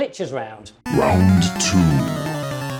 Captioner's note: video games beeping